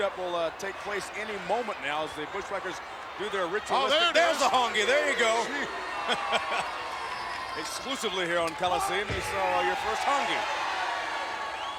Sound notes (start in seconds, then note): 6.5 laughs; 11.5 crowd applauding